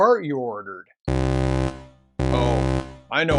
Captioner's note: alert